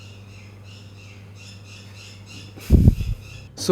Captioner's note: Bat's screeching in the Dragon's Lair near my studio